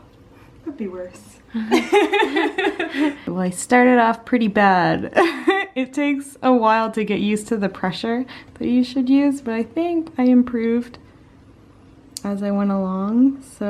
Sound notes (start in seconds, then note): 1.6 laughter; 4.9 more laughter